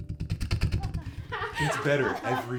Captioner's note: group laughs